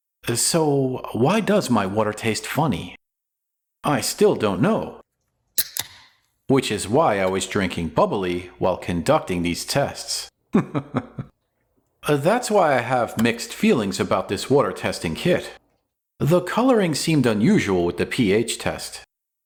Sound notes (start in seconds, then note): 5.5 can Opening